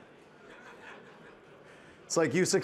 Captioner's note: participants laughing